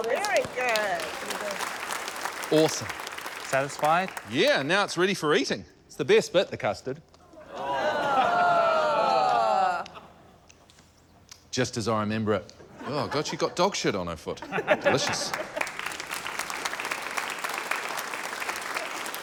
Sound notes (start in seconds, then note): 0.0 applause; 7.4 audience groans; 17.0 applause